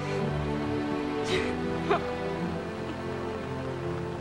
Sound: sobbing

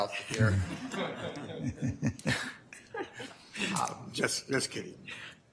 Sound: audience laughter

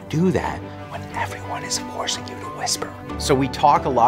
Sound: whispering

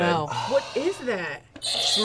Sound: sighs; buzzer rings

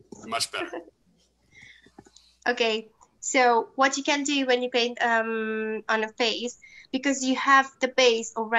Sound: chuckles

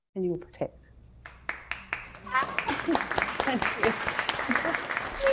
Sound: audience clapping

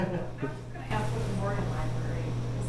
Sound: single audience member laughs

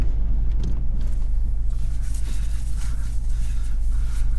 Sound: none

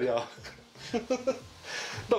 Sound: laughter

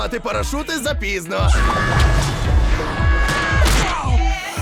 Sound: SpongeBob screams then grunts

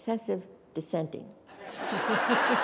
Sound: laughter

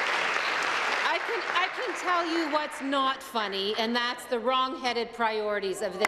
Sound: applause

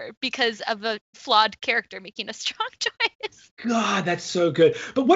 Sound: laughs

